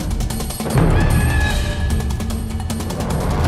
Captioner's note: screaming